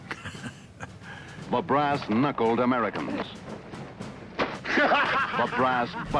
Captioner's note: laughs; voiceover; laughter